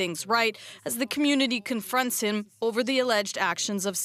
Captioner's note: speaking French